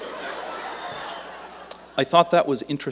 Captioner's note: laughter